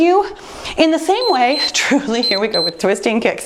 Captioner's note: timer beeps